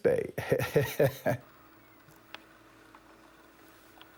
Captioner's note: laughs